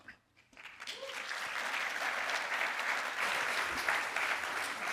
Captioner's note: audience applauding